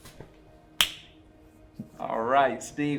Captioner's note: palms slapping